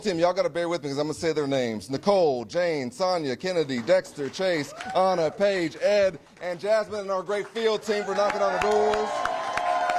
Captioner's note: cheers